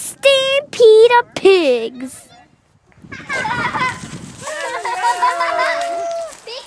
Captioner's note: sound of a pig-call—and kids' loud laughter